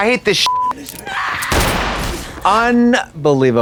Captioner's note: beep; gunshot blasting